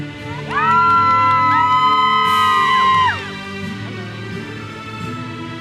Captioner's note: audience cheers and applauds